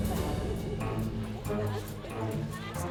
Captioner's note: laughter